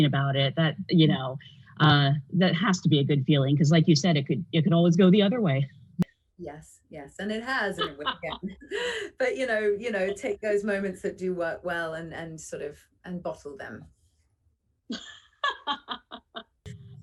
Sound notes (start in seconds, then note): 14.9 laughter